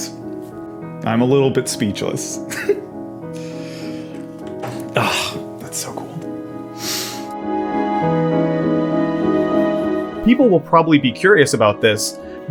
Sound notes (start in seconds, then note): 3.3 scoffs; 4.7 laugh